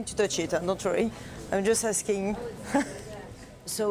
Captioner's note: laughs